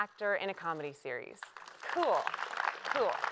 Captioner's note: applause